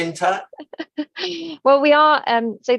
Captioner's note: laughing